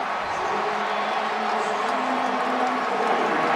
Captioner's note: crowd cheers